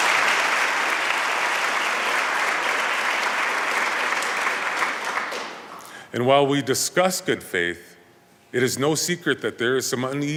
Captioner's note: applause